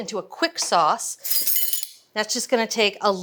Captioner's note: spoons rattling